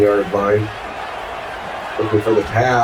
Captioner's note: crowd Noises